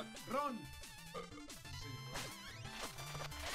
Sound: burping seductively

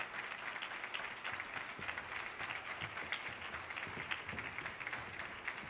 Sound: audience applause continues

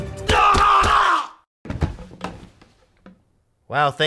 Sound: groans intensely; thump

